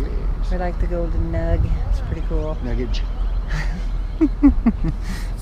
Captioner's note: giggle